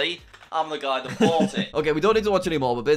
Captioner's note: laughs